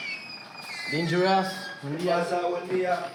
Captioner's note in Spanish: habla en otro idioma